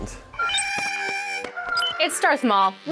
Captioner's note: Porg sounds